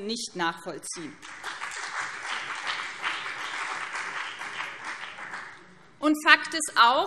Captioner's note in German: Beifall BÜNDNIS 90/DIE GRÜNEN und CDU